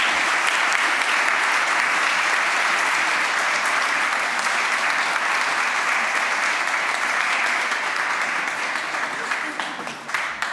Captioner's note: applause, cheering; applause